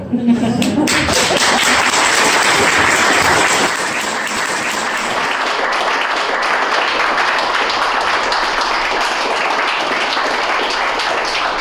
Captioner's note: applause